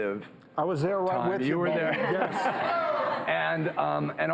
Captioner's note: laughing